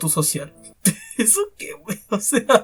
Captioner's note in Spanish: risa